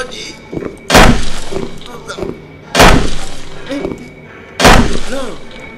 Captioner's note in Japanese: 大きな物音